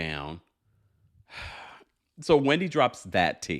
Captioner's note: sighing